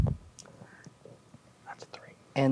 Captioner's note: whispers